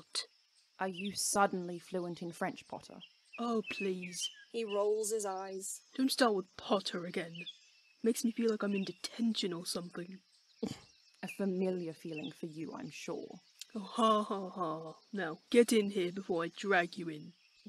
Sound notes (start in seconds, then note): 10.4 Regulus snorts